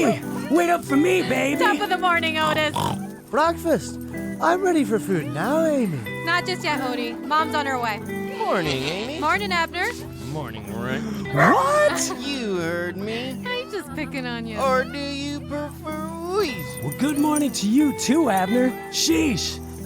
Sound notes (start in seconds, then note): 0.8 snorts; 10.0 gasps; 11.5 Amy chuckles